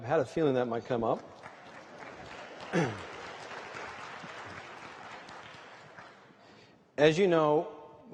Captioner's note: applause